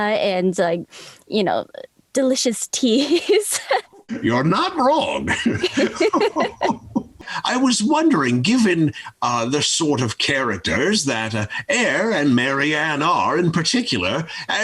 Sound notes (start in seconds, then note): 2.9 laughs; 5.0 both laughing